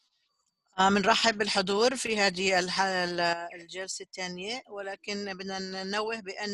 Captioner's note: Arabic